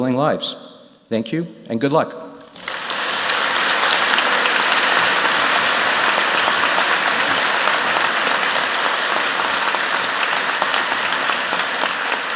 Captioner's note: applause